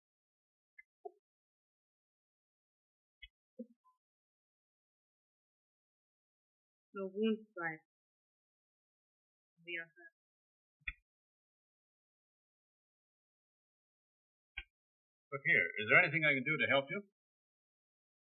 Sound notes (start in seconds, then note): none